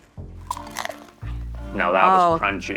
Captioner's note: cracker crunches